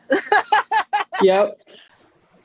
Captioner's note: laughing